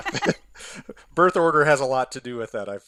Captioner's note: both chuckling